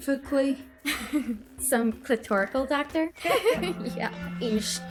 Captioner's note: chuckles